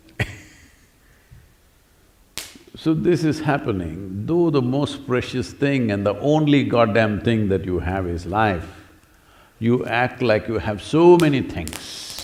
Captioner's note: laughter